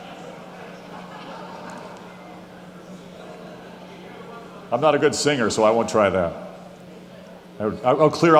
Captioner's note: laughing